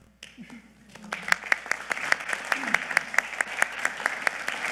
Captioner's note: audience clapping